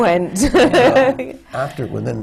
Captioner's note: laughs